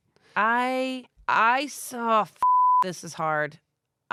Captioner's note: beep